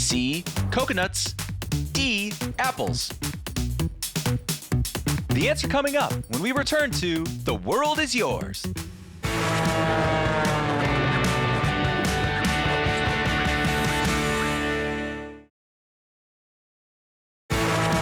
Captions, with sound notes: C, coconuts, D, apples. The answer coming up when we return to The World is Yours. (upbeat music) (airplane roaring)